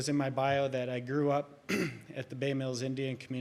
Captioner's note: clears throat